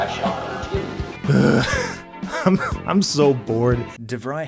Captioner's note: wheeze